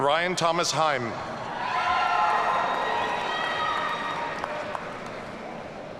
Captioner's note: audience cheering